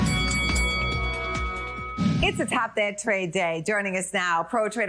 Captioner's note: bell dings